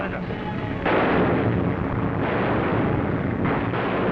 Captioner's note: gunshots